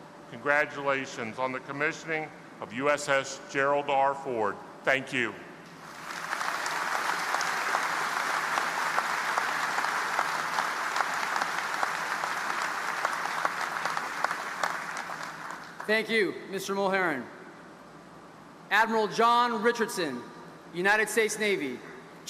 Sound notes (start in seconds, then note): 6.2 audience applauding